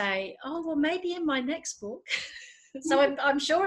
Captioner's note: laughs